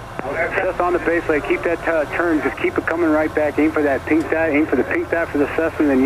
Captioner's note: air traffic control drowned out by static